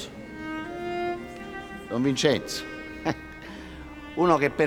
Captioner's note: giggles